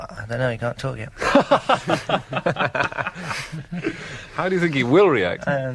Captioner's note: laughter